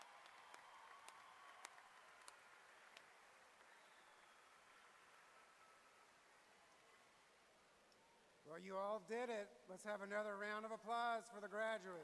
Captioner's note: applause